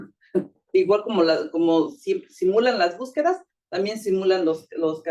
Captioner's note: speaking Spanish